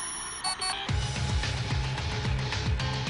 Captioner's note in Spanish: Bip; Bip prolongado